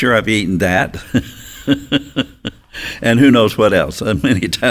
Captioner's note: chuckles